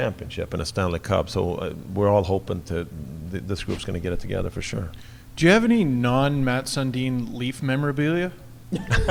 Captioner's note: everyone laughs